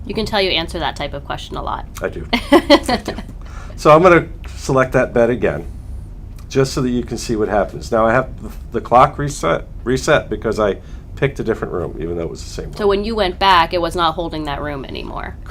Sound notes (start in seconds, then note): 2.4 laughs